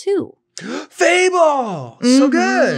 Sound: sighs

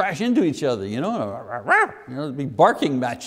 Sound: making barking noises

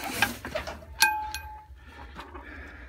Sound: clunkating whoosh woosh

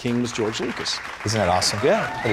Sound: applause / Cheers

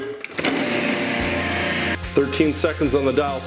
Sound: blender whirring

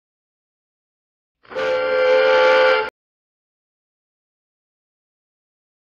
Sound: silence continuing

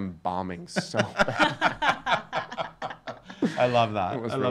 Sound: laughing

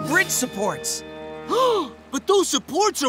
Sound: gasps

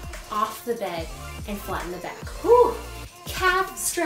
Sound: exclaims

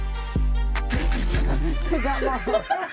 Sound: all laugh

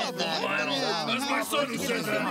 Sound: everyone agreeing

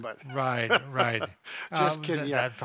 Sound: laughs

